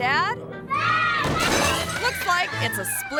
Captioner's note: table cracks